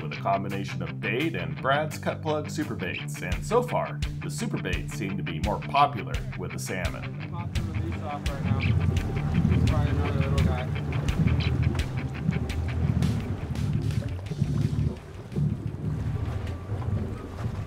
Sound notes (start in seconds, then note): 12.6 background chatter